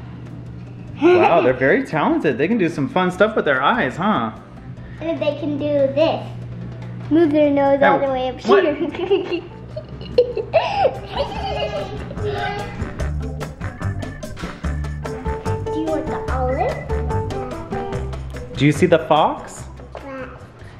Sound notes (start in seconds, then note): 9.7 laughs; 12.1 bright music